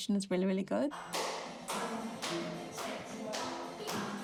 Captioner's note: teacher claps